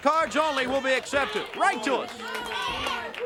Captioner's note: crowd cheering; crowd chatter